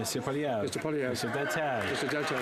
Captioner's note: some Applause